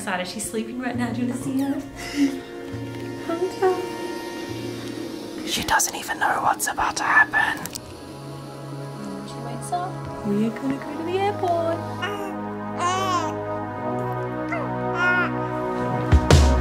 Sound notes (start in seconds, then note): 5.9 whispering; 14.4 baby cooing